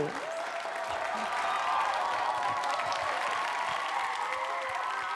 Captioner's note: audience cheering